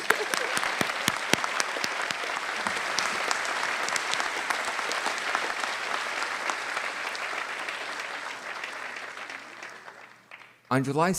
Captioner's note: applause